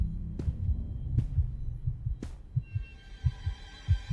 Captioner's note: heartbeat thudding; dark, ugly music plays